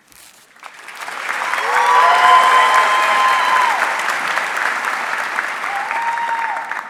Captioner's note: audience cheering and applauding